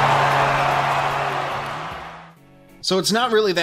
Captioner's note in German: Beifall